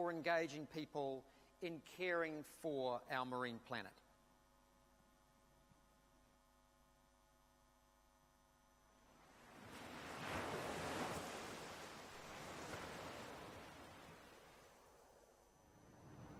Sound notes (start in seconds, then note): 9.3 waves crashing